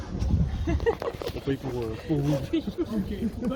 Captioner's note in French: rires